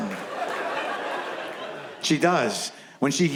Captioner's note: audience laughs